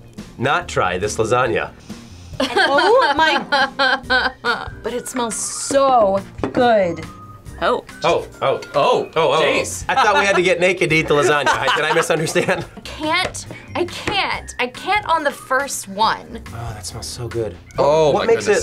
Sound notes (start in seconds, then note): 2.1 whimpers; 12.4 laughs